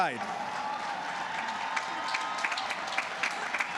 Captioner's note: cheers and applause